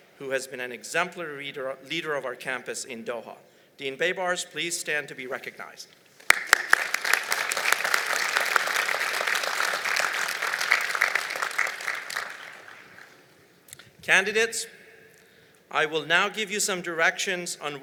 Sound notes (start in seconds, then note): 6.2 applause